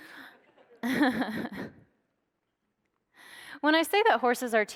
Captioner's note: laughs